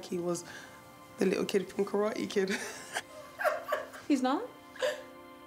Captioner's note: laughs